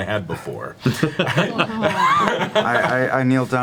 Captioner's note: all laugh